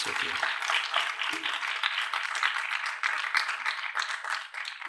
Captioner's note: applause